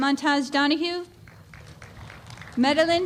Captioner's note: applause